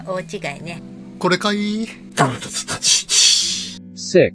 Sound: laughs

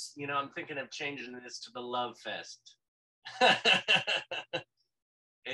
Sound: laughs

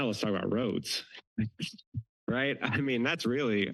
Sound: giggles

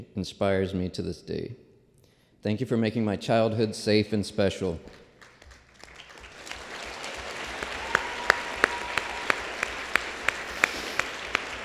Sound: applause

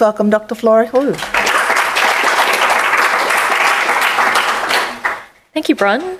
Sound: applause

